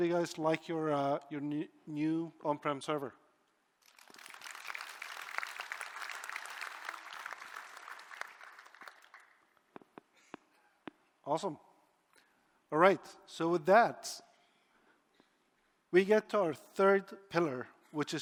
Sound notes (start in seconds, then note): 7.6 applause